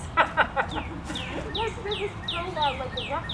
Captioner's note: laughing